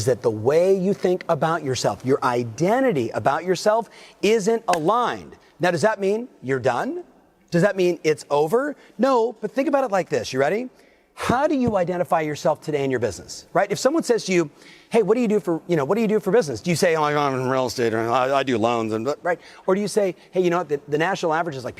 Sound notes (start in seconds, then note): 4.6 claps hands